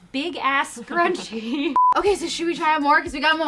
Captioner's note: beep